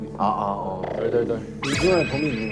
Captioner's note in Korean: 떨림